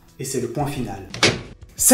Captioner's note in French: clac de machine à écrire